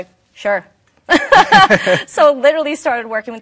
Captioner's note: both laughing